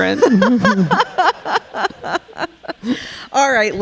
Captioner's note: all laughing